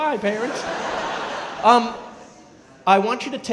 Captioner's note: crowd laughing